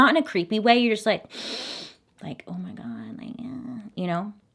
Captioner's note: inhales